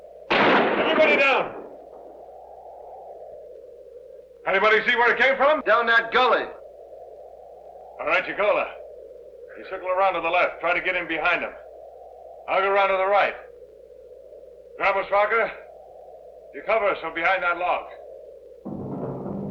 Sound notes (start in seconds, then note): 0.3 gun firing; 18.6 foreboding music